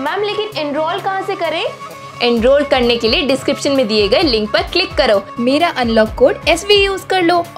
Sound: none

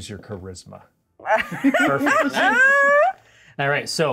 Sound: co-hosts laughing

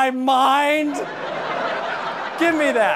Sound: audience laughter

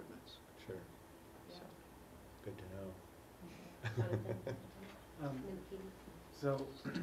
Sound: laugh

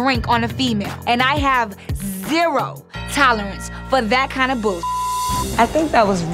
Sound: beep

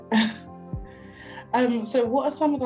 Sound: chuckling

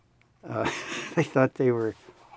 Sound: laughs

